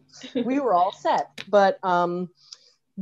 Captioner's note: laughing